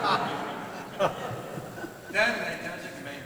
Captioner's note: laughter